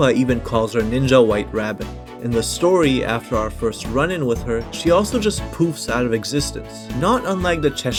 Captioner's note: poofs